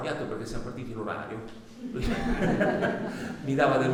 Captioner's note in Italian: risate